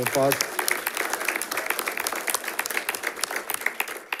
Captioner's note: audience applauding